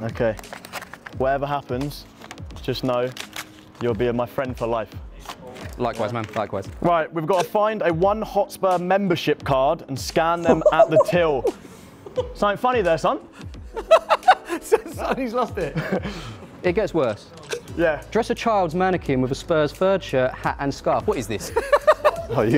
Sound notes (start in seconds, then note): 13.7 laughter